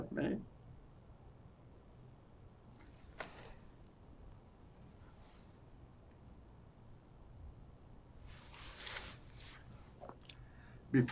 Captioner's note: pauses 10 seconds